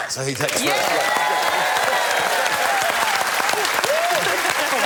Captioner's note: applause